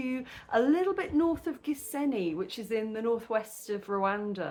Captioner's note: none